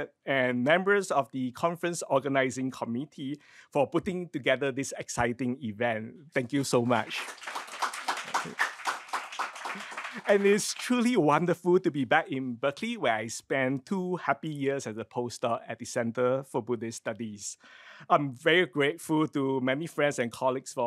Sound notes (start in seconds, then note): 6.9 crowd applauds